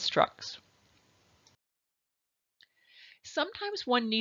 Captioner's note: silence